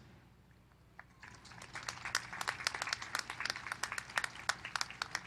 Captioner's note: applause